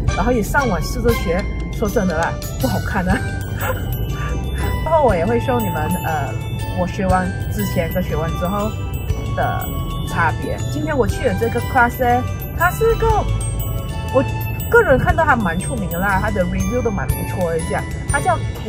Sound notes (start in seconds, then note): 3.0 laughed